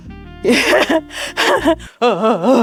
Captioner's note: laughs